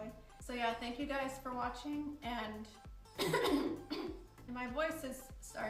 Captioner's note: coughs